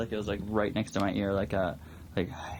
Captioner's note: exhales